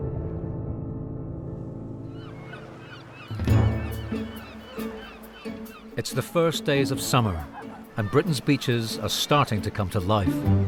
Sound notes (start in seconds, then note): 2.3 seagulls crying; 3.8 dramatic music